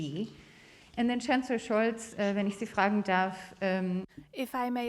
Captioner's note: speaks German